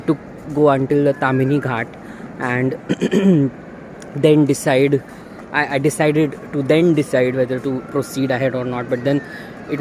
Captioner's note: clears throat